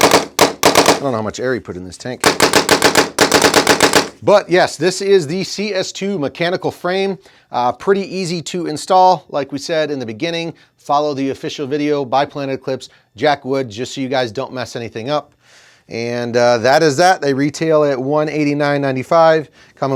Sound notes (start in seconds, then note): 2.2 piston banging